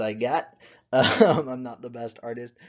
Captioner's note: laughs